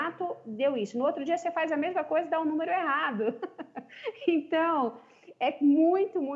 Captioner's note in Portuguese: risos